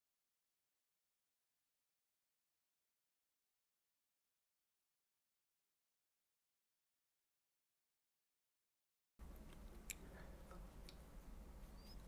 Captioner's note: silence